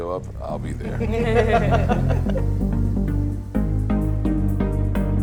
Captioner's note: group laughing